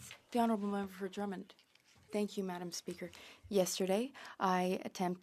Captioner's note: speaking French